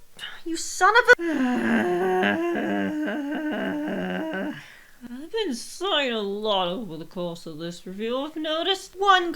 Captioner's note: deep sigh